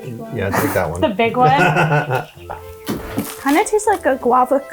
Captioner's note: laughs